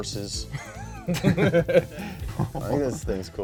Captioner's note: both laughing